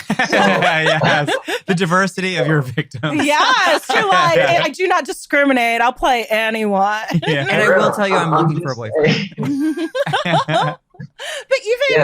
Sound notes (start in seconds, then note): 7.0 laughs